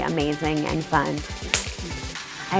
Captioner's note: solid high five smack